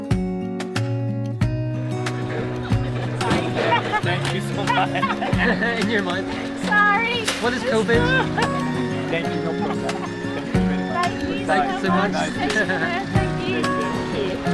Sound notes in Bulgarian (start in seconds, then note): 4.5 Смях; 4.5 и двамата се смеят